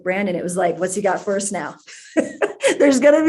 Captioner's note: laughs